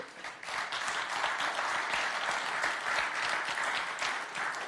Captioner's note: applause